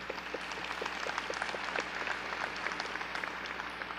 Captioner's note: audience clapping